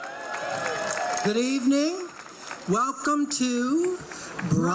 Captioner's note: crowd clapping and cheering